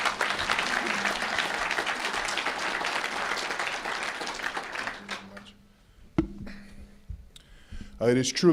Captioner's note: applause